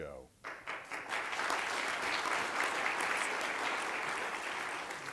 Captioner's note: applause